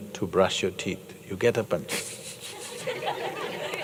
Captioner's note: laughter